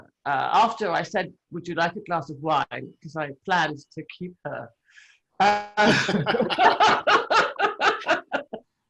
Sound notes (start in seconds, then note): 5.8 all laughing